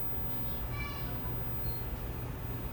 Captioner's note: happy children's voices